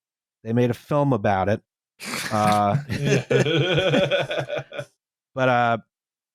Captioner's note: laughter